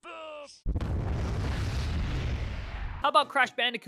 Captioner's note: kaboom